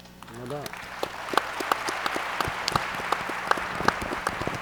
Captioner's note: audience applauds